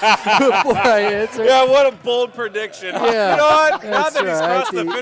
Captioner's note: laughter